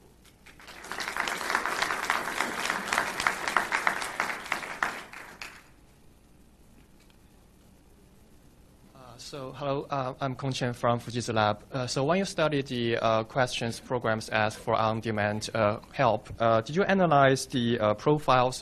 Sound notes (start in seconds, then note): 0.4 clapping